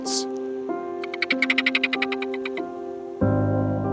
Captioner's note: ferret chirping